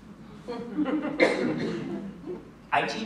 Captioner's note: laughter